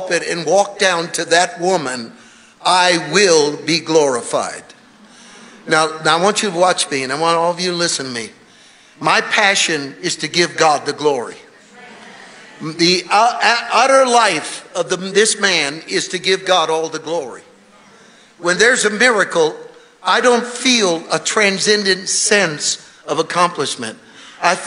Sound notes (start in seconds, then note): 11.8 congregation muttering in agreement